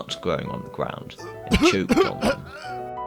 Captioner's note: cartoonish Choke